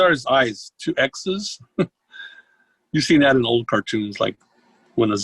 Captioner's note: chuckles